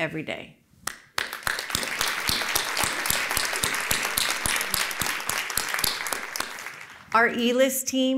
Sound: applause

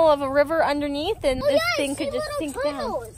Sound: boys talking in background

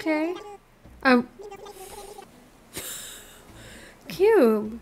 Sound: laughs

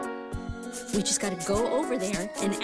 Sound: scratches

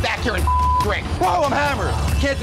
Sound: beep

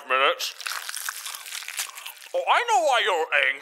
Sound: mouth full; chewing

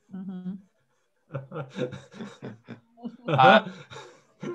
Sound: laughter

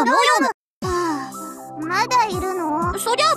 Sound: sigh

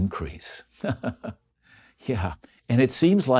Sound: chuckles

